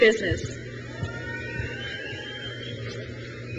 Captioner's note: crowd cheers